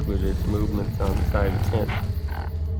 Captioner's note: growling